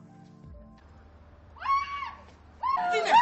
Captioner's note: aphrodite screams